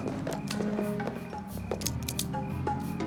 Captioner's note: guns clicking